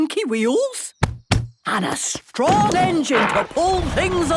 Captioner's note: thumping